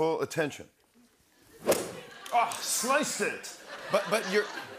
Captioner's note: club whacks ball